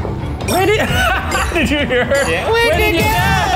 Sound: laughs

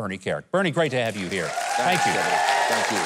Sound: audience cheering

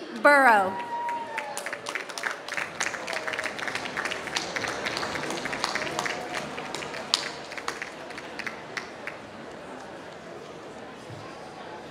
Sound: applause

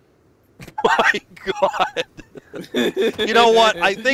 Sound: laughter

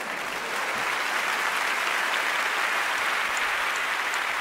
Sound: audience applauding

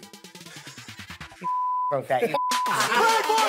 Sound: beep; laughter

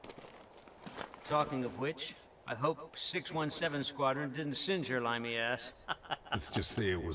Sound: chuckle

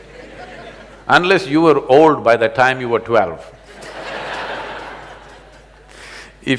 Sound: laughter

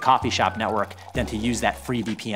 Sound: coffee pouring

